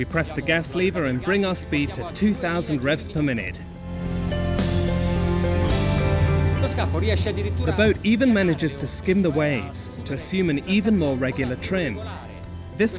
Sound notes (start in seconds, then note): 3.8 inspiring orchestral music; 6.8 speaking foreign language